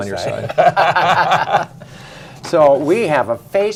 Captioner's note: laughter